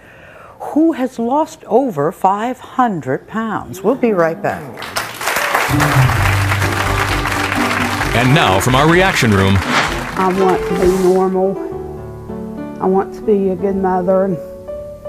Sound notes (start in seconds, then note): 4.7 audience applauds; 5.7 upbeat music; 11.6 somber music